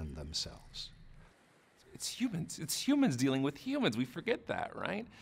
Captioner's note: voiceover